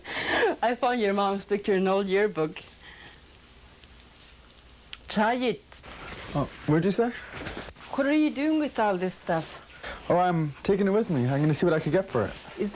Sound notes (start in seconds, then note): 5.0 speaking yupik